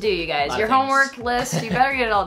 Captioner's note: laughs